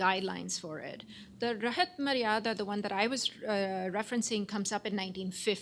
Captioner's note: non-english